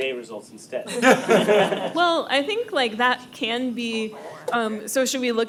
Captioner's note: laughing